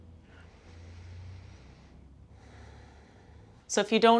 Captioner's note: breathes loudly